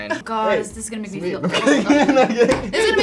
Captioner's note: laughs